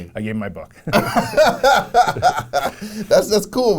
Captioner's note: both laughing